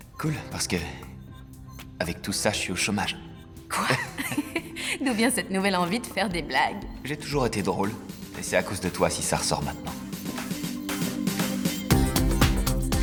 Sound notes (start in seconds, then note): 3.7 laughing; 10.5 upbeat music